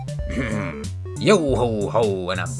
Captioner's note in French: hrm